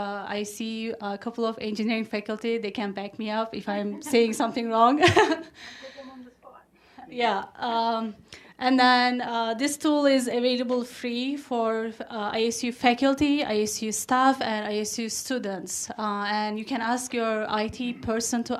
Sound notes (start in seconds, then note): 3.9 laughs